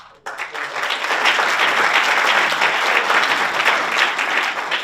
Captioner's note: audience applauds